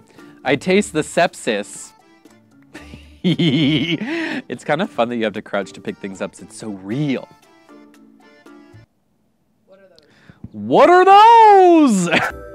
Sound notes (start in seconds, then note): 2.7 laughs